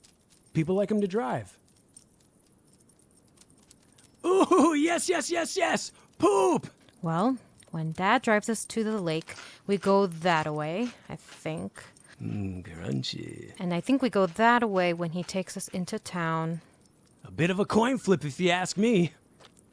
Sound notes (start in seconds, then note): 12.2 Elvis chomping